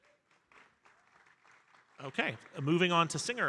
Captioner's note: audience applauding